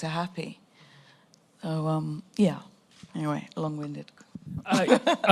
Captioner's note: laughs